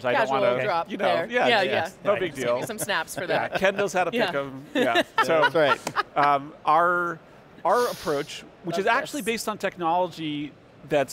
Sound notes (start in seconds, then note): 4.6 laughing